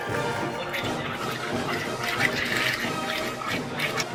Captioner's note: gargles wine